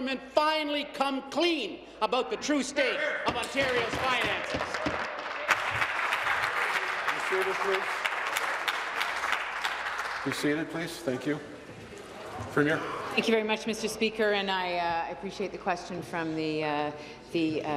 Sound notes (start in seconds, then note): 7.0 applause